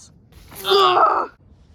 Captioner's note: screams